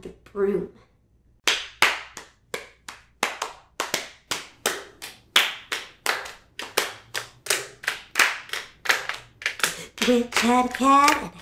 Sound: clapping

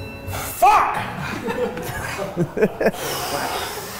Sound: men laughing

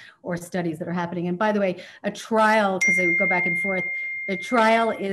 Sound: sound of mobile phone 'ding'

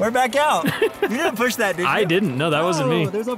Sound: laughs

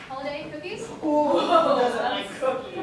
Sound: all laughing

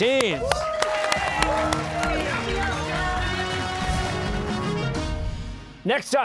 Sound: cheers and applause

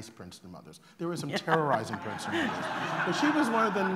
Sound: laughter

